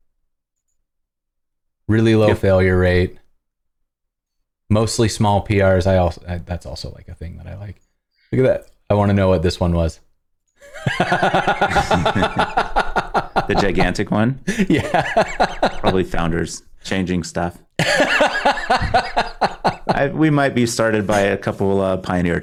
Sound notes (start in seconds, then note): 10.6 laughter